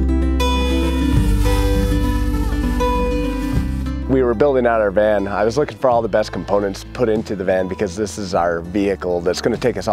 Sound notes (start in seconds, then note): 0.0 soft music; 0.4 drone buzzing